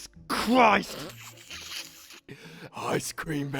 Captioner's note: sniggering